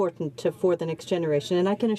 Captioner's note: speaking French